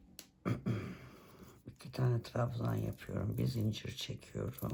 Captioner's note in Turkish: boğazını temizler